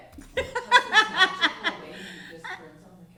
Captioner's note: laughing